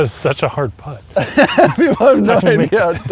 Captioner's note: laughs